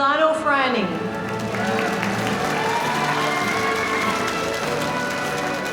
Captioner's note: audience applauding